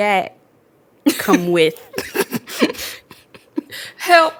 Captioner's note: laughs